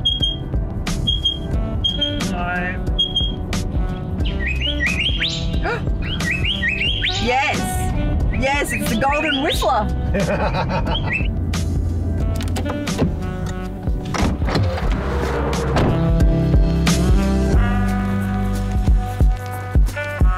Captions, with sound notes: (bird chirping) No. (bird chirping) (gasps) Yes! Yes, it's the Golden Whistler. (laughs) (jazz music)